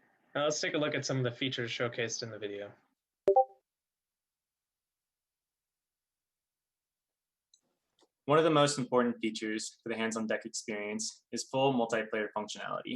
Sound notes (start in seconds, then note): 3.4 silence